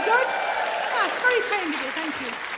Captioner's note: audience cheering